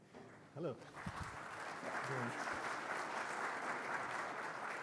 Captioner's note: attendees clapping